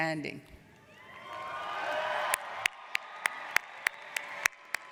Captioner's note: applauding